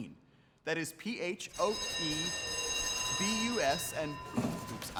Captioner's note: school bell rings